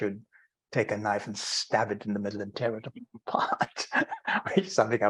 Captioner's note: laughing